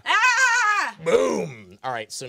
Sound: screaming

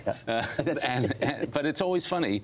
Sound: laughter

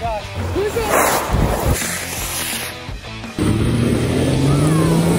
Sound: rocket engine sounds

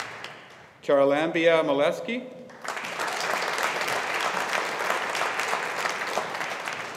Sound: audience applauding

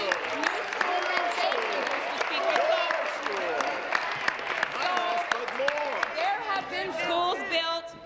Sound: applause

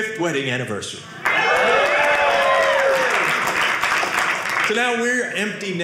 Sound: audience cheering

